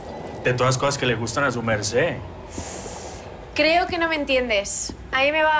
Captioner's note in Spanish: none